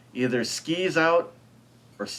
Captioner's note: none